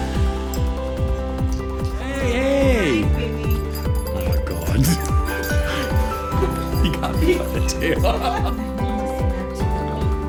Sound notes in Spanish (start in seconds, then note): 6.3 Risas